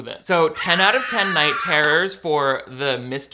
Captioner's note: ghost screaming